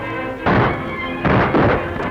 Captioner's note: gunshot